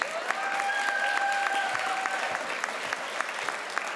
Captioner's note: crowd applauds